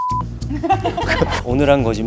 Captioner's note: laughs